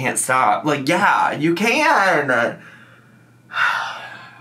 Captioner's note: sighs